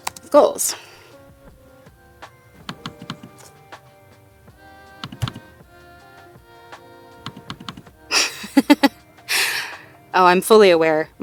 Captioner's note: mouse clicks, laughs